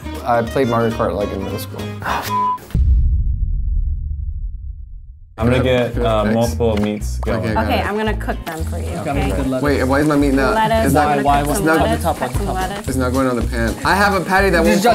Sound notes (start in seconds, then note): 2.3 beeps